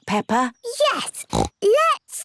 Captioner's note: snorts